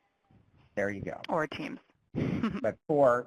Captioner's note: brief laughter